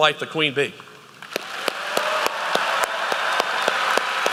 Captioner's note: applause